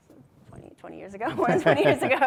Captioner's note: chuckles